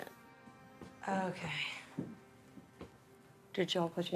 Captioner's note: sighs